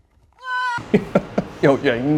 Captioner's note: whining